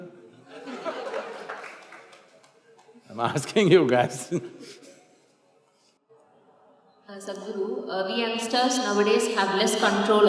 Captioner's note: few laugh